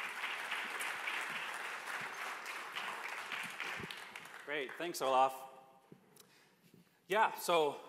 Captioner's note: applause